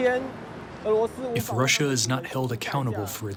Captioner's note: through translator